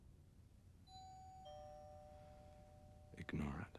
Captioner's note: doorbell rings